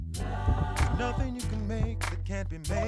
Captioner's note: heart beating